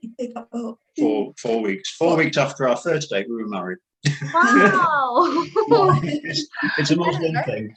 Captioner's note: laughing